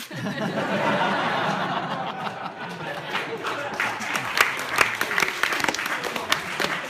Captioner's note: laughter/Applause